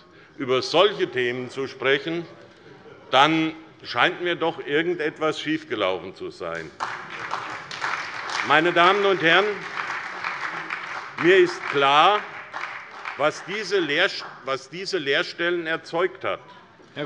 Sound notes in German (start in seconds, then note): 6.6 Beifall bei der SPD